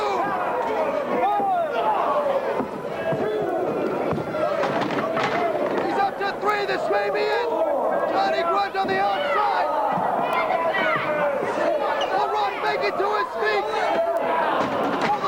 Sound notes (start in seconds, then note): 7.3 crowd chatter